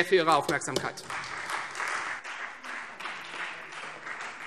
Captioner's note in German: Anhaltender Beifall Freie Demokraten